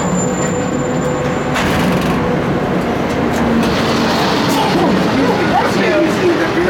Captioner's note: man lift whirring winds down and stops, door opens